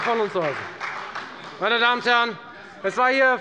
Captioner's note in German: Beifall bei der FDP und bei Abgeordneten der SPD